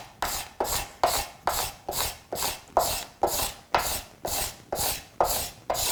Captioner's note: blade continues rhythmically scraping